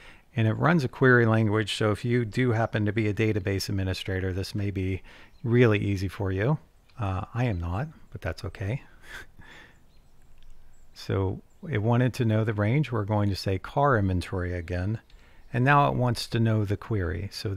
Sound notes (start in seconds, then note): 9.0 chuckles